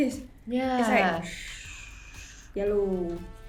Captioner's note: does whooshing sounds